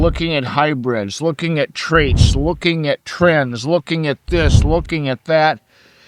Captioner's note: whooshing sound; whooshing sound